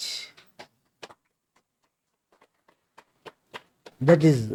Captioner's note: claps